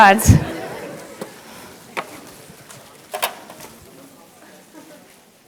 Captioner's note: audience murmurs